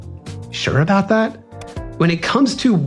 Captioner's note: pop